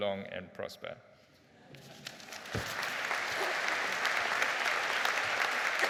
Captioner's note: crowd laughs softly and claps